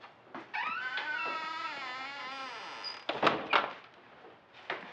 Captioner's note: door creaking, shutting